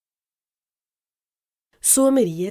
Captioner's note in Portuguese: Voz feminina